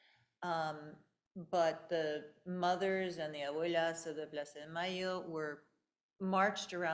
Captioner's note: speaking in foreign language